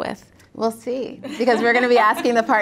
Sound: laugh

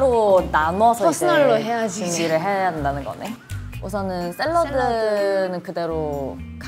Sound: none

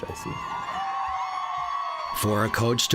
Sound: cheering

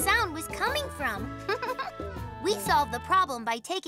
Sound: Hogi giggles

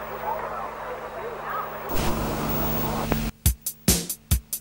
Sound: vhs clicks and whirrs

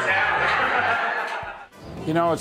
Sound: crowd laughing

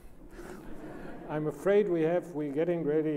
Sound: laughs

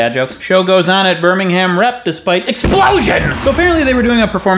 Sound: explosion noise

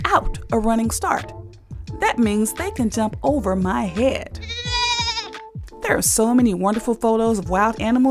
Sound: goat bleat

